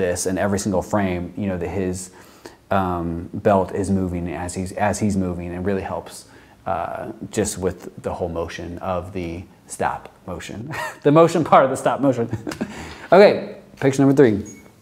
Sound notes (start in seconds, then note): 12.2 chuckles; 12.3 laughs